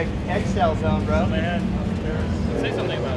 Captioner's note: crew member speaking faintly